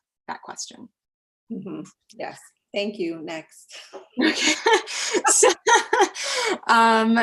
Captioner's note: laugh